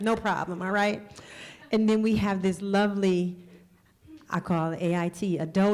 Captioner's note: laughter